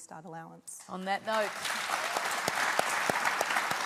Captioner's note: applause